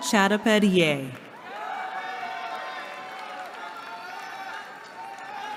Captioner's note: cheering